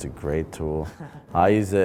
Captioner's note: laughs